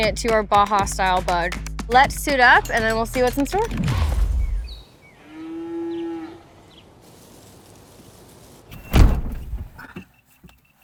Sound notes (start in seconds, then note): 5.0 birds chirping & cow moos; 8.7 door shuts